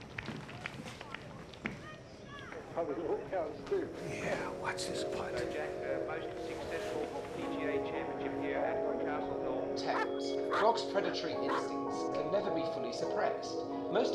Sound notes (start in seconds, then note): 9.8 TV playing